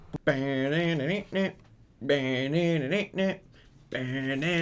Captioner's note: soft vocalizations